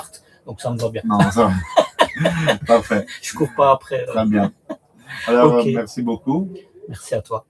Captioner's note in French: rires